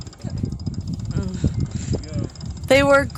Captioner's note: nervous